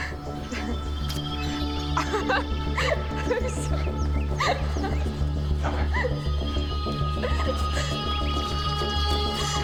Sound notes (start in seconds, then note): 0.1 tense music; 4.4 laughs